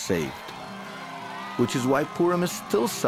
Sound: crowd cheers

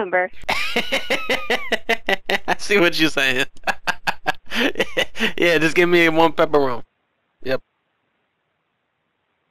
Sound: laughter

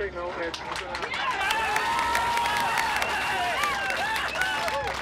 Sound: team cheers

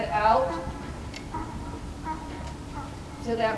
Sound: donkey braying

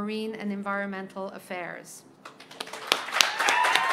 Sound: applause

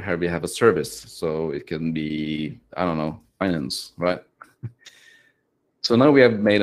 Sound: chuckles

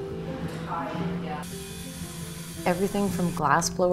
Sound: machine whirring

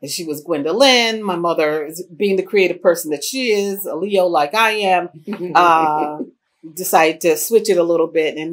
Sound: laughter

